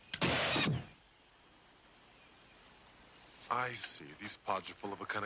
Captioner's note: pod gun firing